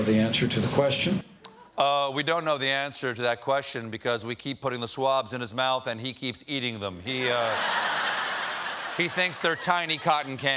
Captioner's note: cheers and applause